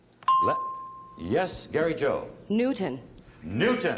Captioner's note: ding